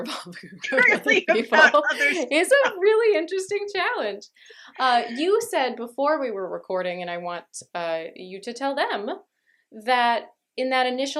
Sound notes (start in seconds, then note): 0.6 laughter